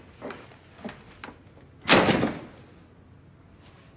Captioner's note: door slams